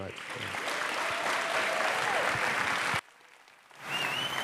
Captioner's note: applause